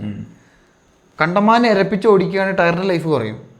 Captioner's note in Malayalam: തൊണ്ട ശരിയാക്കുന്നു